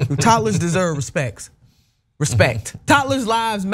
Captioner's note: laugh